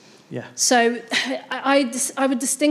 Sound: chuckles

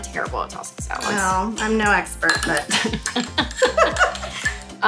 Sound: laughs

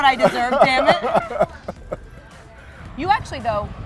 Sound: Anthony laughs

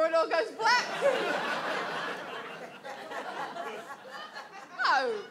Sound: audience laughs

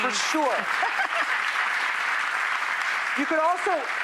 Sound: audience applause

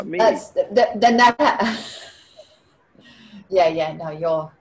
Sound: laughing

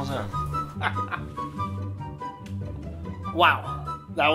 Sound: laughs

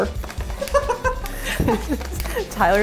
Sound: laughing

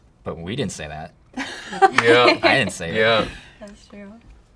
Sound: laughter

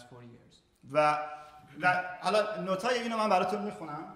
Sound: speaking in farsi

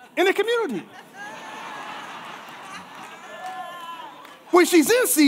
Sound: congregation laughing

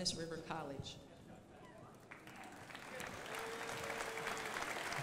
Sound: crowd applauding

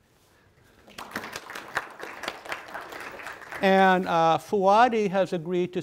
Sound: audience applauding

